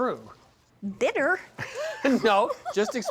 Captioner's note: laughing